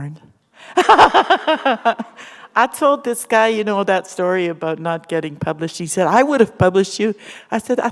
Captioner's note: laughter